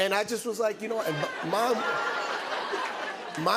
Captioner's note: laughter